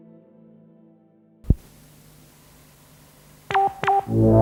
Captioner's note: static sound